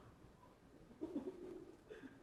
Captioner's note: laughing